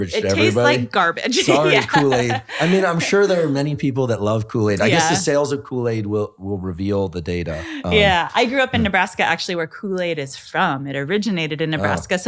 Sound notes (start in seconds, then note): 1.3 laughing; 7.4 laughing